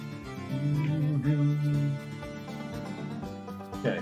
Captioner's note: humming along